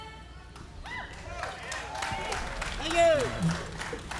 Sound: audience applauding

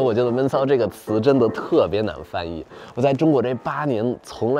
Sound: speaking in foreign language

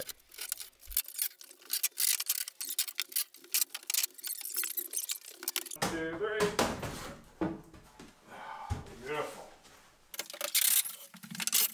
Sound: sped up sounds of temporary wall being disassembled

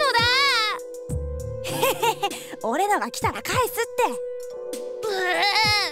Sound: chuckle

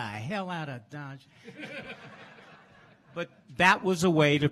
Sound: laughs

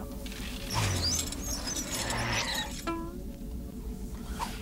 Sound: chair wheels squeak

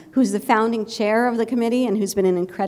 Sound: none

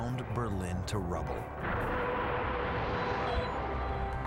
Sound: artillery fire

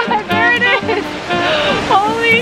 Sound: laughter

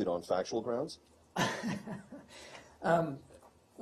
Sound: laughter

